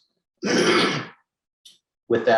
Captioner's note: coughs